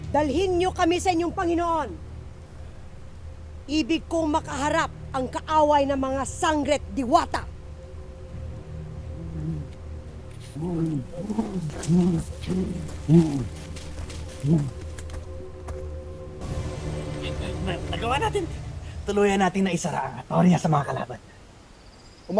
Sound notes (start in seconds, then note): 10.3 tense music playing; 10.5 guttural roar